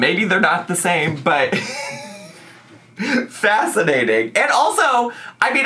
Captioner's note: laughs